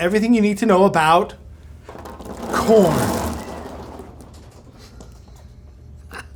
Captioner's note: corn patters; laughs